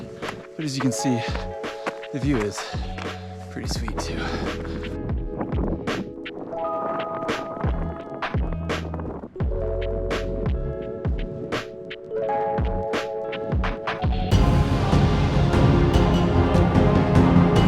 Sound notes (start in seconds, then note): 5.8 wind rustling; 7.5 upbeat music; 14.2 dramatic music